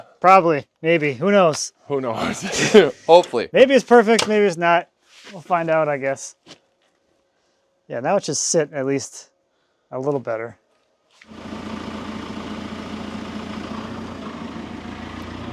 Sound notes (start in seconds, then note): 11.3 engine rumbling